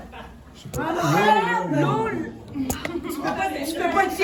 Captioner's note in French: rires